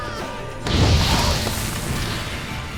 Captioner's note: flames whoosh